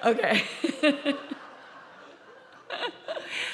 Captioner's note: laughing